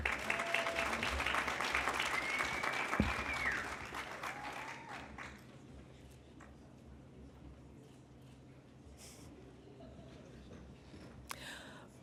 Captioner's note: applause